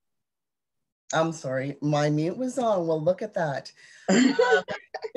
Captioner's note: laughs